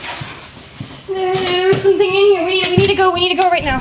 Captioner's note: frightened muttering